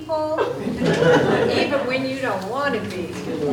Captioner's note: group laughs